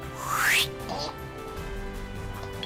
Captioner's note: flashback sound